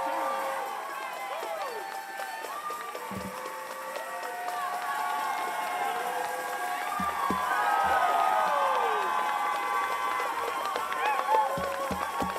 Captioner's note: cheers and applause